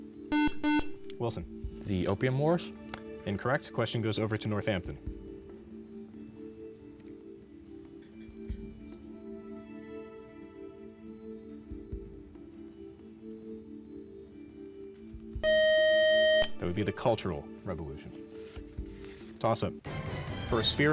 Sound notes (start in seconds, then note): 0.3 beep; 15.4 time out buzzer